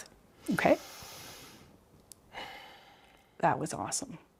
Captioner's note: breathing deeply